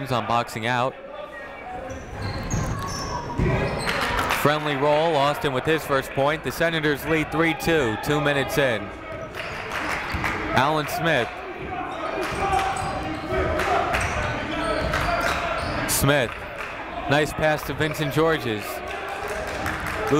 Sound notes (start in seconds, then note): 13.6 clapping